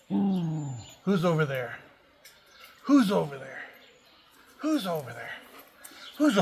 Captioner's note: friendly growl